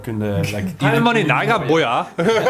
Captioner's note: casual speech